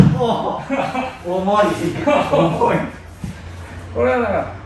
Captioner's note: laughter